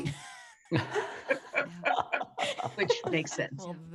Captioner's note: all laughing